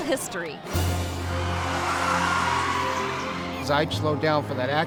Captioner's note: tires screeching